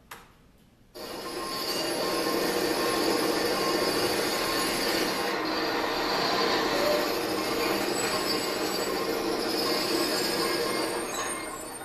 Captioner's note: mechanical sounds and beeping